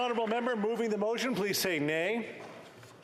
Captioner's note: applause